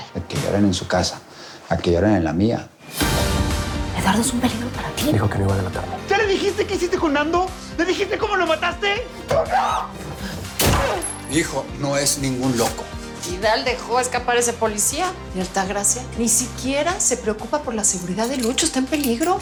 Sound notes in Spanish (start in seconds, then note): 9.4 Grito; 10.5 Disparo